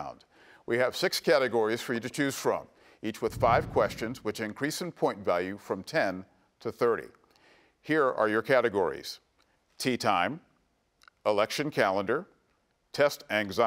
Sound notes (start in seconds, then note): none